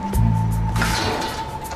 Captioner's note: crashing